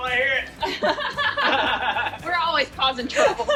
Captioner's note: all laugh